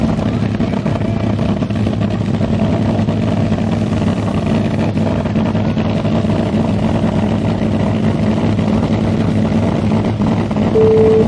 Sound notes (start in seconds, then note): 6.4 engine growling